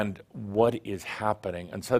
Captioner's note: none